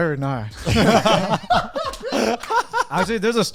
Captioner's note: all laughing